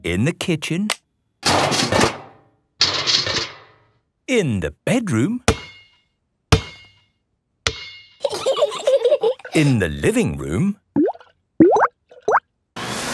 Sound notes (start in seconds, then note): 2.0 banging; 8.2 giggling